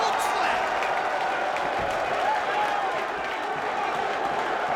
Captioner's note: crowd cheers